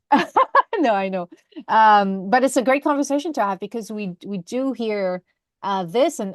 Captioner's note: laughs